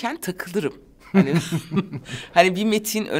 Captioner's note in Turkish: Gülüyor